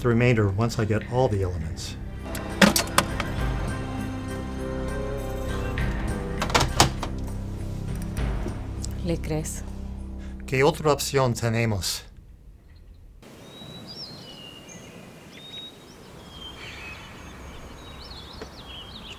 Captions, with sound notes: You'll get the remainder once I get all the elements. [both speaking foreign language] [birds chirping]